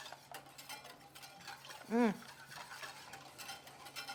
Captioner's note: whisk whirring